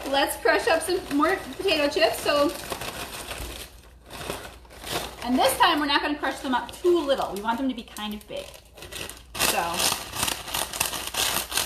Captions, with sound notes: Let's crush up some more potato chips. (chips rattling) And this time we're not gonna crush them up too little. We want them to be kind of big. (chips rattling)